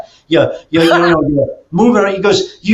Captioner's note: laughs